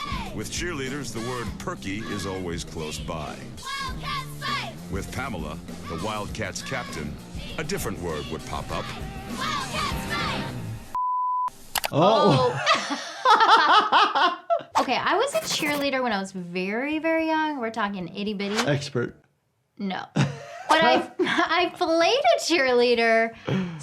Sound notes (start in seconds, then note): 11.0 beep; 12.3 laughing